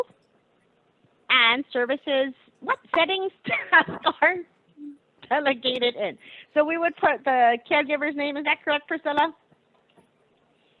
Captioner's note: laughing